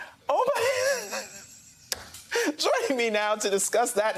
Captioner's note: laughter